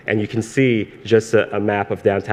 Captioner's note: none